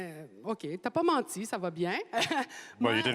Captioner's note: speaking French